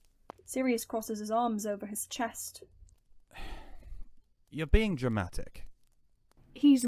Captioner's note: Sirius huffs